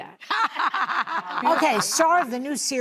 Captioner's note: laughing